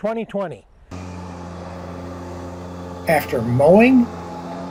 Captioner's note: tractor/mower sound